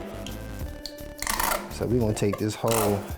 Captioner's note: container sputters